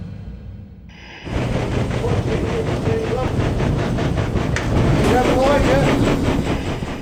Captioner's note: churning machinery drowns out crew